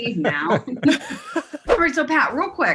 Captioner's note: laughing